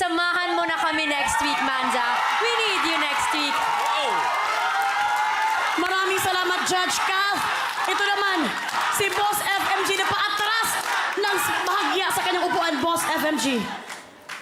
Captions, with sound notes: Join us for next week, Manza. We need you next week! [CROWD CHEERING, APPLAUDING] Thank you so much, Judge Kath! Let's hear from Boss FMG who was on the edge of his seat. Yes, Boss FMG?